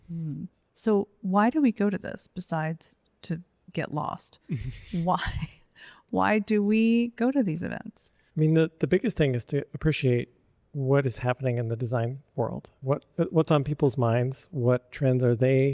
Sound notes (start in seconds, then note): 4.5 chuckles; 4.5 laughs